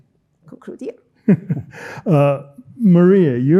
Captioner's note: chuckling